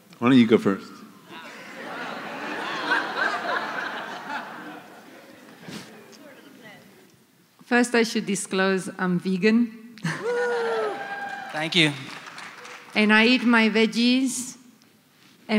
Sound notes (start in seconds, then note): 3.5 laughter; 10.1 cheers